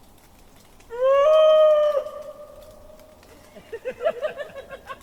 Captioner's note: fire crackling; imitates Sasquatch howl; group laughing